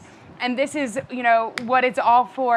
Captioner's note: hands slap